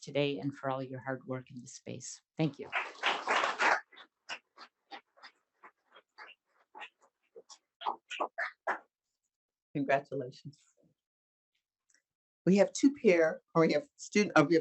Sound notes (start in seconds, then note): 2.7 audience applauding